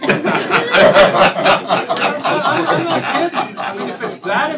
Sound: laughter

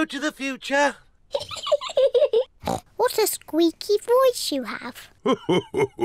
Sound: laughs

